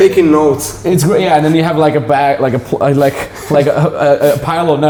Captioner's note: laughing